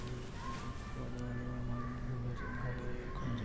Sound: chanting

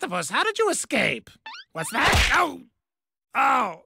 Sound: Perry beckoning squeaky noise

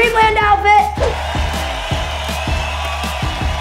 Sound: crowd cheering

